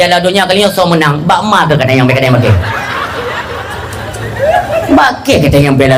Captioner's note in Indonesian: tertawa